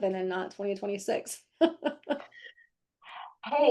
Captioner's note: laughing